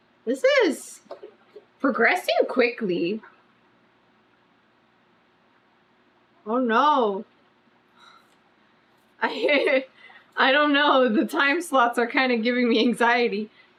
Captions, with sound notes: THIS IS PROGRESSING QUICKLY OH NO [LAUGHS] I DON'T KNOW THE TIME SLOTS ARE KIND OF GIVING ME ANXIETY